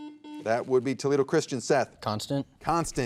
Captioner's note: soft beeping